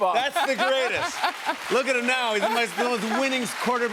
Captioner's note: cheers and applause